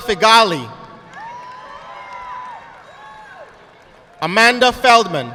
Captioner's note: audience clapping